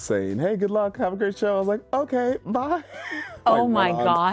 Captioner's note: laughs